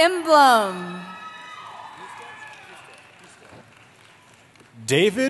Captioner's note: cheering